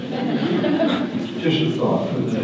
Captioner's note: audience laughter